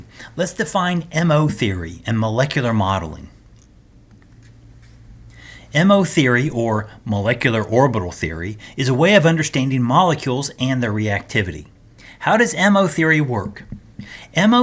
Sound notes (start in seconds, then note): 4.2 turn page